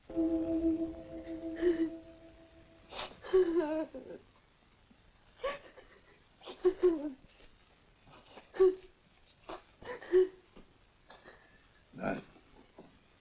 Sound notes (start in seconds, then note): 3.3 The Angel crying